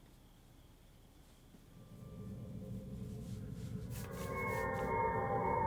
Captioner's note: paint brushing on canvas